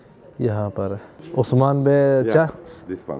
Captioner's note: Turkish